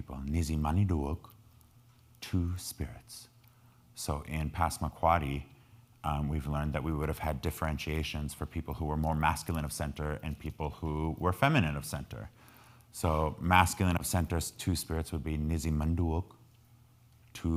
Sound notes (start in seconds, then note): 4.6 speaking in foreign language